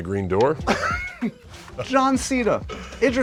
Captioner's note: laughter